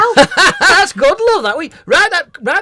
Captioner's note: laughter